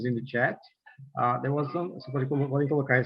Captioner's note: non-english